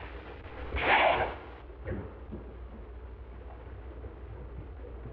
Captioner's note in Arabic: إطلاق نار متفجر